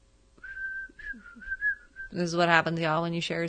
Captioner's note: whistles